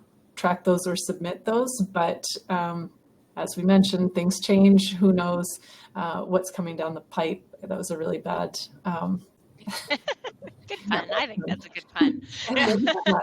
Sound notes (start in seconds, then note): 9.6 laughter